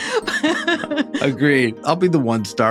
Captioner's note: laughs